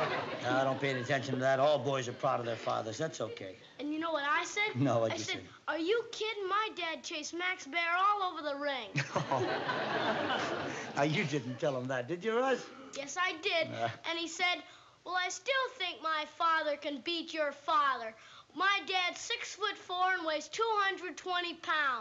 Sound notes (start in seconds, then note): 8.9 chuckles; 13.7 groans